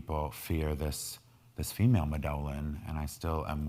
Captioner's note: speaking in foreign language